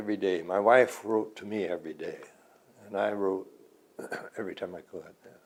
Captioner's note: clears throat